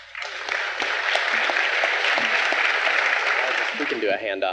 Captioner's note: audience clapping